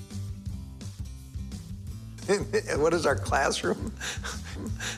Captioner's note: laughs